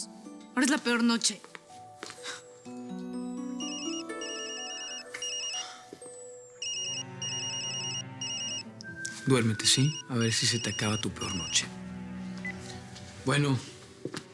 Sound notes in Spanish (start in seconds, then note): 5.6 Suena un celular; 13.6 Bip